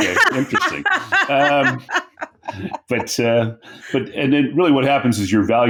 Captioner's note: laughing